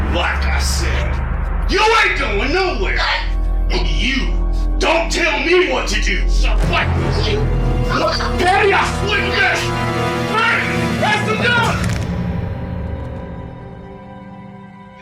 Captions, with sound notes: - Like I said, you ain't going nowhere. And you don't tell me what to do, (faintly speaks). - Patty, honey. Here, that's enough. (somber instrumental music)